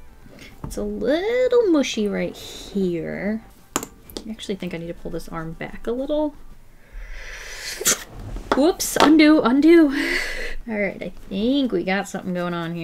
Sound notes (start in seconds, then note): 6.7 deep inhale